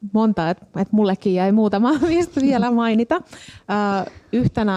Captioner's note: laughs